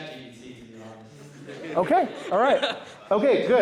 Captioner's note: laughter